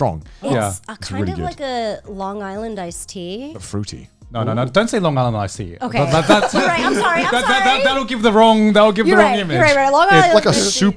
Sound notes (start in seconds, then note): 6.0 laughing loudly